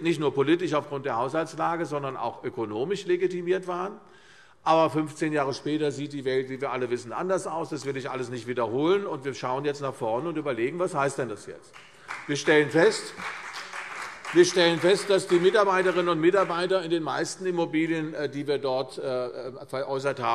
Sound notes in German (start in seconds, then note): 11.7 Beifall CDU